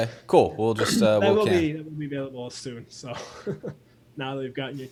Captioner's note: laughs